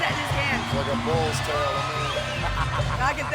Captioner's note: laugh